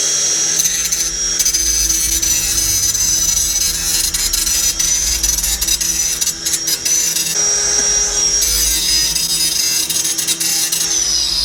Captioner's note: abrasive disk screeches against jagged steel